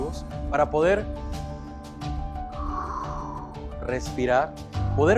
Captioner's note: takes a deep breath